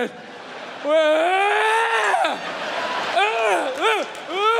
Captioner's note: Bill screams and grunts